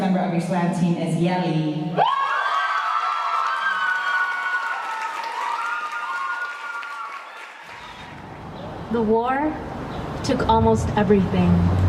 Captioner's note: cheers